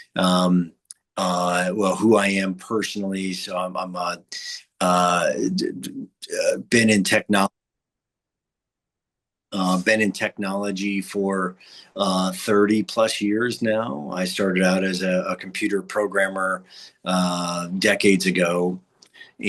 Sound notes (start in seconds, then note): 5.3 stammers